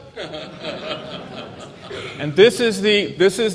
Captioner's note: laughter